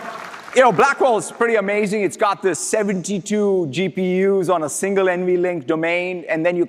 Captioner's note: applause